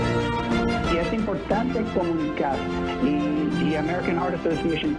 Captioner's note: reporter speaking in a foreign language